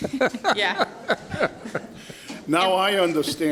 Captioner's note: Caprio laughs